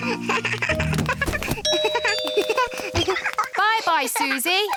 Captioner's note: giggles; rings doorbell